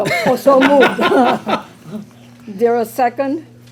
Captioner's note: laughter